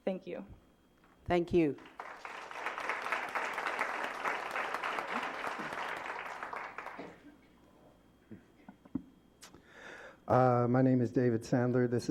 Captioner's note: applause